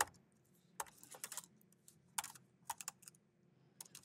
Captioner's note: keyboard clicking